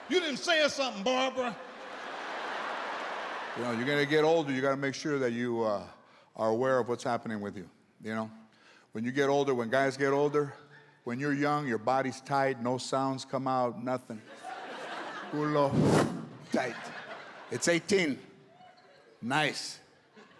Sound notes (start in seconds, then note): 1.0 audience laughs; 14.2 audience laughs